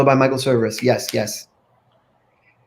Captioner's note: finger snaps